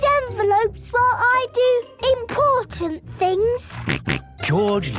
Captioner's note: George snorting